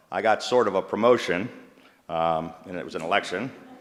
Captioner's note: laughter